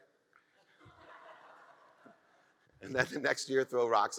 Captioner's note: audience laughs